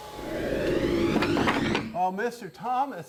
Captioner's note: whooshes